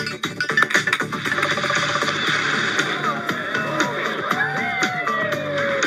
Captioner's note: water sloshing